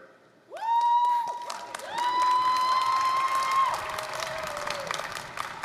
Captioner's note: applause, cheering